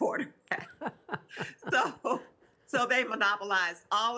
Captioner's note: both laughing